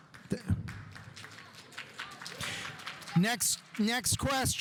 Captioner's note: audience applauding